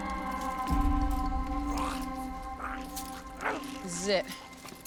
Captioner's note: zombie snarling